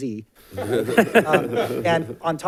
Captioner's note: audience laughing